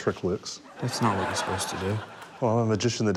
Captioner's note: laughter